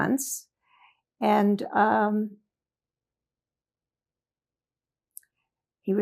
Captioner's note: pauses 4 seconds